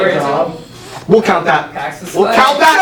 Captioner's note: sucks in breath; red team cheer